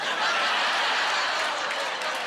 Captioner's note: audience laughing and groaning